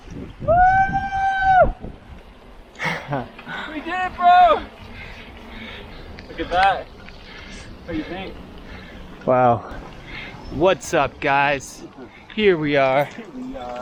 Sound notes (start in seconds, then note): 0.4 screaming with joy